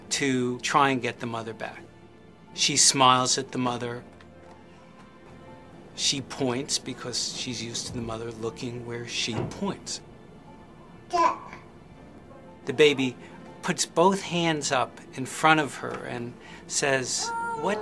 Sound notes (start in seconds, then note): 11.1 baby cooing; 17.2 baby crying